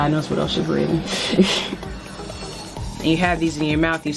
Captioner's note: laughs